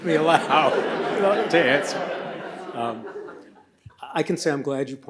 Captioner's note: audience laughs